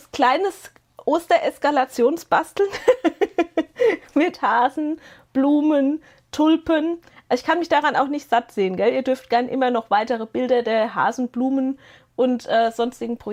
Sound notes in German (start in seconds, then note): 2.6 gelächter